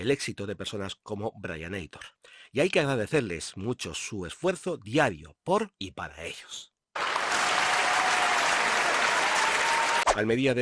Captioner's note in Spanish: Aplausos